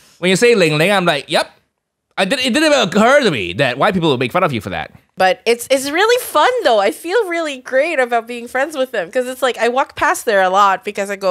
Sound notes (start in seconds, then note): none